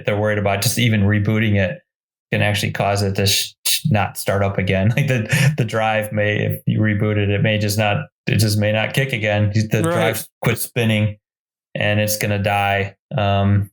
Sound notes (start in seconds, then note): 4.7 giggles